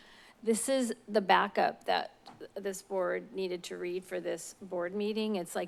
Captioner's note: none